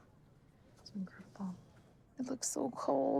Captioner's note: quietly